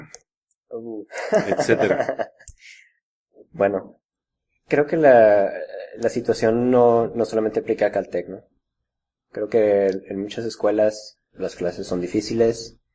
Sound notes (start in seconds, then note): 1.2 laughs